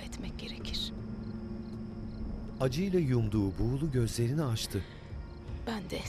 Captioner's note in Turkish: Cır cır böceği sesi